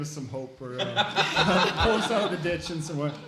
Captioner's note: laughing